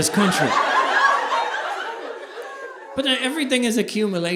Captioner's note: audience laughing